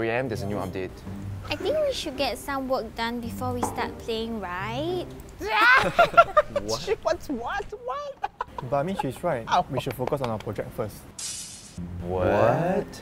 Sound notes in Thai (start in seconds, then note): 5.4 หัวเราะ